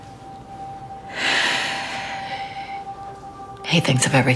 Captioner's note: sighs